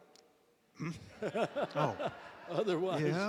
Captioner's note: laughter